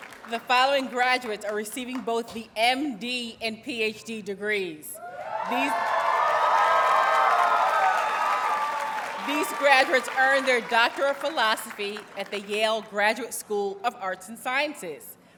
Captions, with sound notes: The following graduates are receiving both the MD and PhD degrees. [Audience cheers and applauds] These graduates earned their doctor of philosophy at the Yale Graduate School of Arts and Sciences.